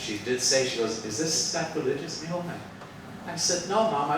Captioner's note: speaks Spanish